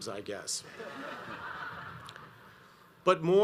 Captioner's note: audience laughs